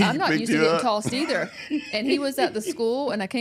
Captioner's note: laughing